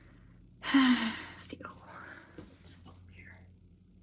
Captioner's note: sigh